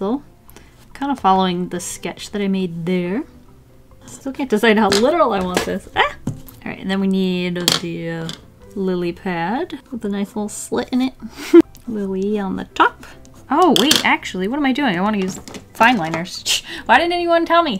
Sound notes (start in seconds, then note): 11.3 laughs